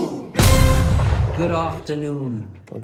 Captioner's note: cannon booms